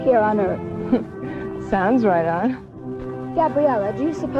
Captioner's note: chuckles